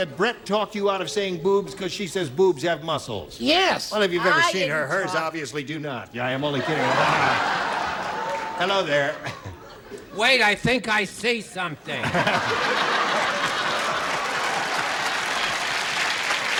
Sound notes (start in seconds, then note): 14.1 laughter